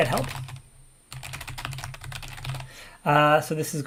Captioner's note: keyboard keys clank